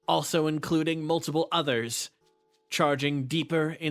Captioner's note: none